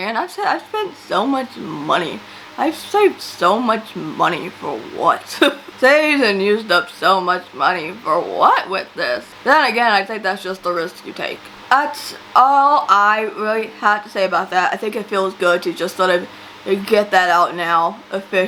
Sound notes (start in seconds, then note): 5.2 laughs